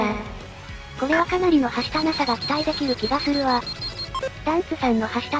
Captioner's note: beep beep beep